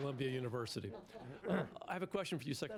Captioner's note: laughter